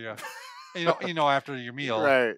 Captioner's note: laughs